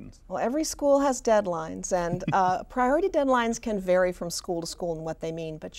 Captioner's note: laughter